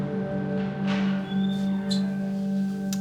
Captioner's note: door squeals while opening